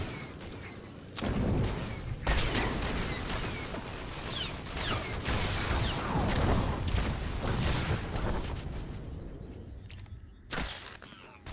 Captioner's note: gunshots